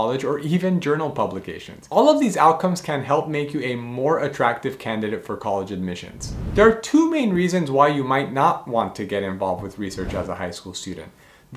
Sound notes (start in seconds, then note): 6.1 air whooshing